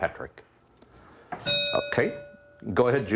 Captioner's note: bell ringing